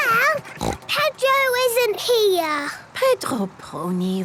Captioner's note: snort